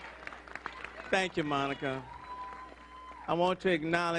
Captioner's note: applause